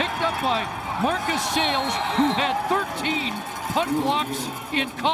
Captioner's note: crowd din